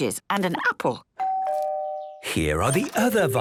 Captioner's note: doorbell rings